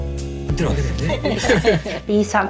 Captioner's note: laughs